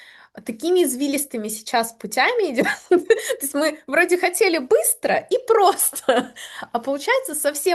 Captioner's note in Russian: смех